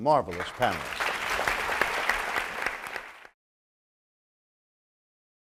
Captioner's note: audience applauds